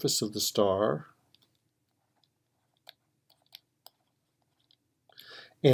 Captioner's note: typing